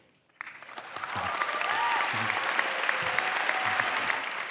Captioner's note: crowd applause